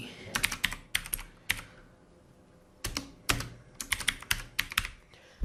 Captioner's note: keyboard sound